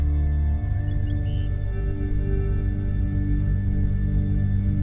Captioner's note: birds chirping